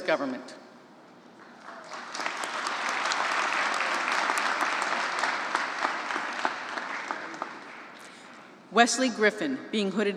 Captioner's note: applause